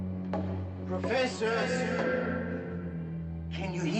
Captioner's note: "Professor" echoing